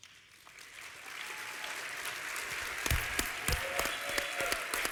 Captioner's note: applause